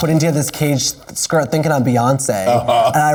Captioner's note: laughs